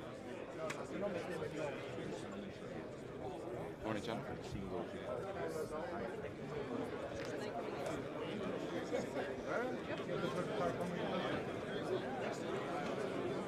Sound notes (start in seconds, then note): 7.3 indistinct conversation